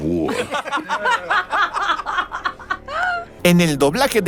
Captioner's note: laughs in English